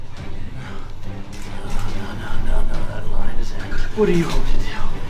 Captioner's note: panicking